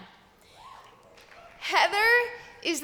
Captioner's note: cheers